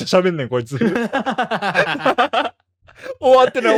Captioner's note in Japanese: 笑い